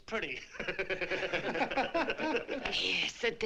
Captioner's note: laughter